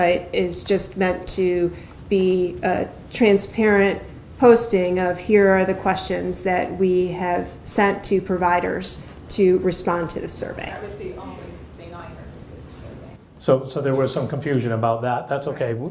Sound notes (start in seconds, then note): 12.4 speaks faintly